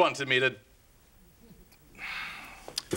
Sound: sighs

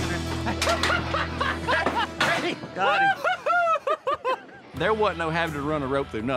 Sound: laughing

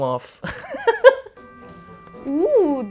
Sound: laughs

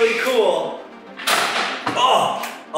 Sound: kickstand clattering

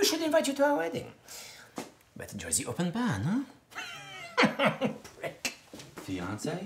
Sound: laugh, then whispers

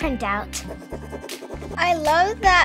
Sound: crayons scratching

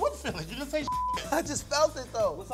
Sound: beep

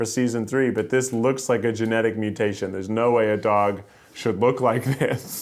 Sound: laughter

